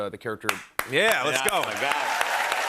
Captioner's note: cheers and applause